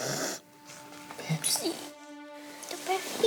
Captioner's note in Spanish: Génesis solloza